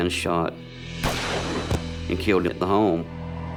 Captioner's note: gun firing